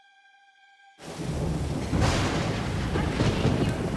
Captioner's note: thunder crashing